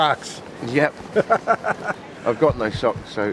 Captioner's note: laughing